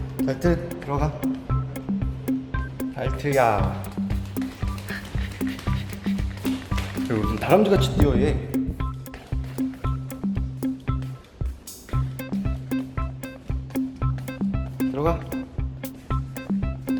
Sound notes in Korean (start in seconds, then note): 5.0 대충 뛰어가는 소리